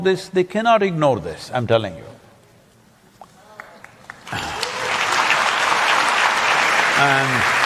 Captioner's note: applause